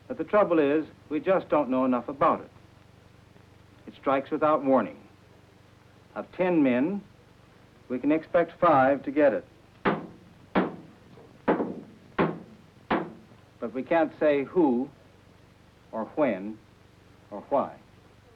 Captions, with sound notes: But the trouble is, we just don't know enough about it. It strikes without warning. Of 10 men, we can expect 5 to get it. [Metal banging on table] But we can't say who or when or why.